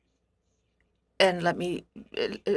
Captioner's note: speaking in French